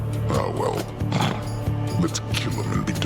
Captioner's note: snorts